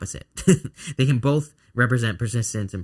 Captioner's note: chuckling